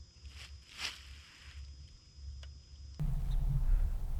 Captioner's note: leaves rustling